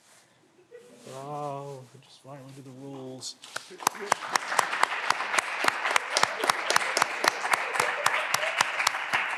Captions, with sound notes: (Candidates laughing) Oh, it's fine with the rules. (clapping continues)